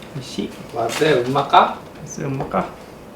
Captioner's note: "Is it delicious?" in Kagoshima dialect